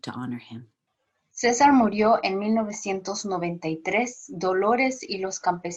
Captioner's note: foreign language